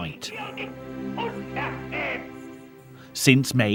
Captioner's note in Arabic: الصوت المنطوق باللغة الألمانية